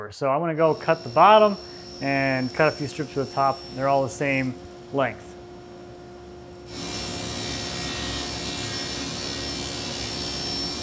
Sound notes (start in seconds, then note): 6.6 saw brattling